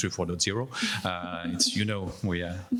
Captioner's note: panelists laughing